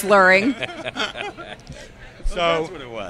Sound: laughter

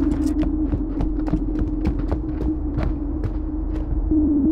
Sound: footsteps approaching; footsteps stop

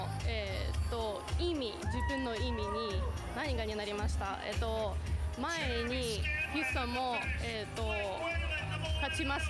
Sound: speaking non-english

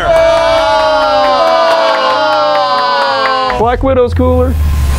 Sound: clapping

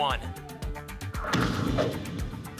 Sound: whoosh; thump

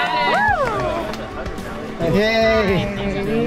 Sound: crowd cheering

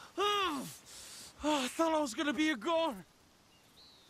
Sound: grunts

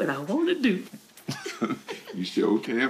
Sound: both chuckling

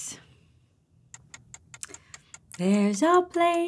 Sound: clock ticking

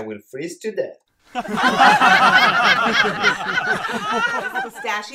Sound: audience laughter

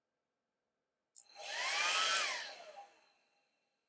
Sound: hairdryer turning on & off

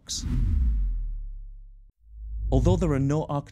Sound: whooshing

